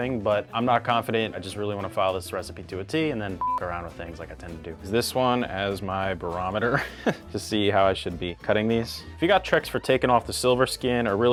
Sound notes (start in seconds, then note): 3.4 beep